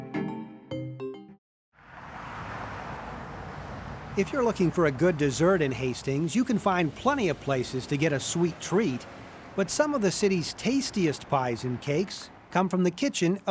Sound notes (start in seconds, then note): 3.6 traffic noise